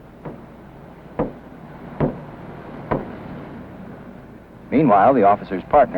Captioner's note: man in car slaps the car door